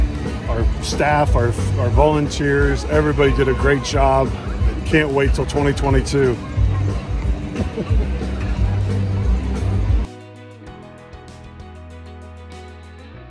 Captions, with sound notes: Our staff, our volunteers, everybody did a great job can't wait for 2022! [joyful laughing]